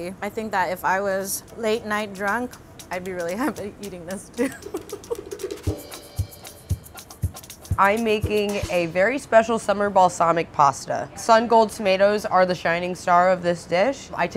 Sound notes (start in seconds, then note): 4.4 laughing; 5.8 upbeat music